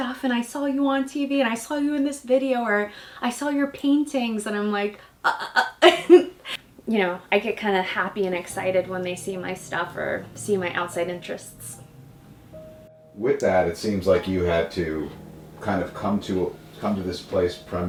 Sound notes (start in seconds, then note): 5.5 laughs; 11.8 nostalgic music